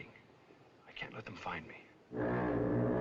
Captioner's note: foghorn Blows